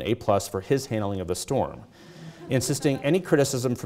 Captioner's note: audience chuckles